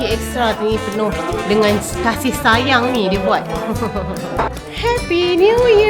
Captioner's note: laugh